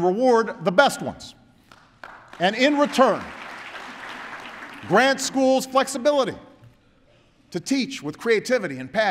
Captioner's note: applause